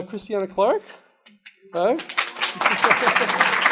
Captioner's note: applause